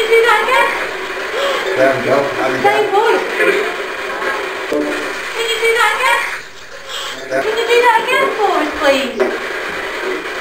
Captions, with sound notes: (Child's voice) There you go and again Its the same voice Can you do that again? (Child's voice) Can you do that again for us please?